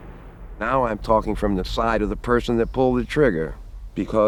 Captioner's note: gunshot sound